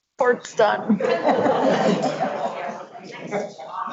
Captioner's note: laughs